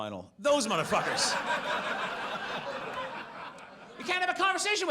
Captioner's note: audience laughs